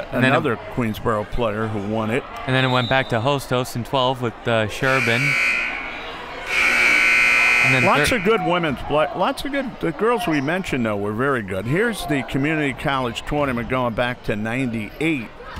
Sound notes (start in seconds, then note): 2.6 whistle; 6.4 buzzer